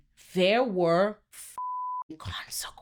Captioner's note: beep